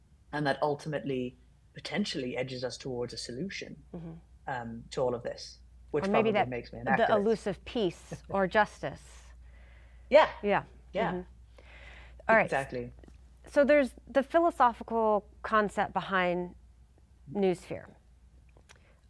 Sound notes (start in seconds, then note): 8.0 chuckling